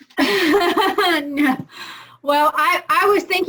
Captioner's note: all laughing